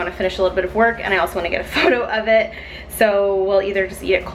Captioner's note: laughs